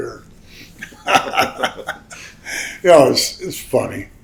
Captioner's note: both laugh